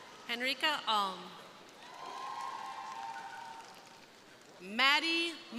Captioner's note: crowd cheering